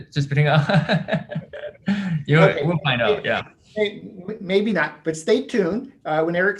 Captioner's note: laughs loud